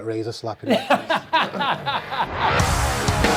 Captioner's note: laughing